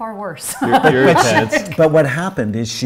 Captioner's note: laughs